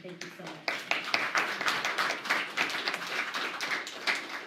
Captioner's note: applause